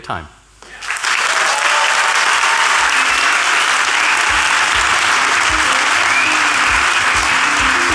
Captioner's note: applause